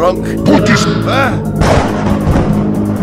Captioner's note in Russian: гром